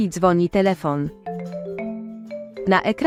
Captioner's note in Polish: dzwonek telefonu